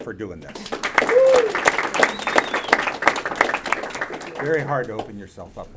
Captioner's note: audience applauding and cheering